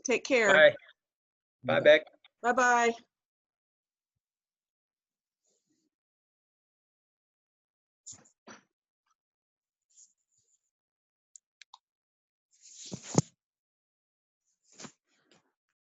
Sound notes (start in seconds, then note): 11.8 mouse clicking